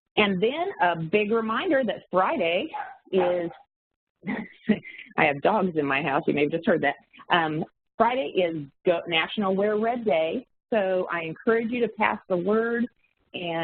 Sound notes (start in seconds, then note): 2.7 dogs barking; 4.2 chuckles